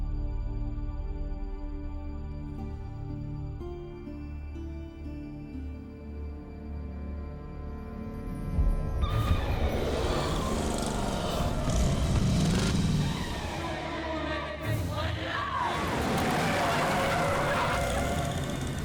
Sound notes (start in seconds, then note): 9.2 tires screeching; 12.0 engine rumbling; 16.2 tires screech